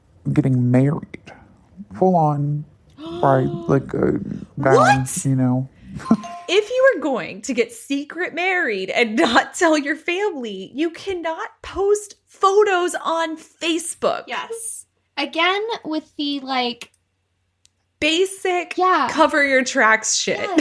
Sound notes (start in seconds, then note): 5.7 gasp; 6.0 bingbong